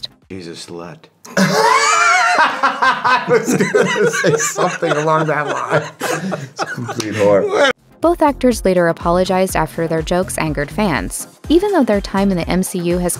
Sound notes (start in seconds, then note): 1.3 hard laughter